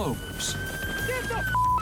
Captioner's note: siren